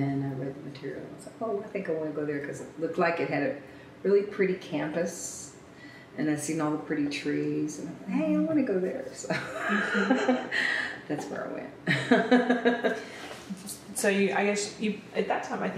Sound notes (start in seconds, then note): 11.9 laughs